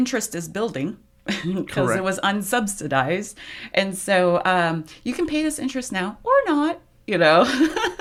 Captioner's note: laughs